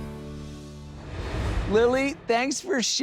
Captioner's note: air whooshes